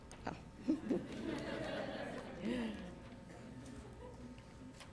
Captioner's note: laughter